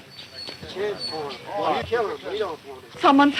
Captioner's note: talking excitedly